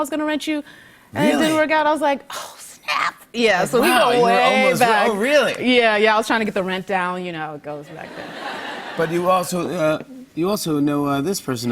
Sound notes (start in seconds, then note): 7.8 laughter